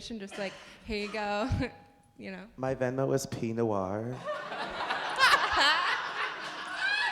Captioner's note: laughter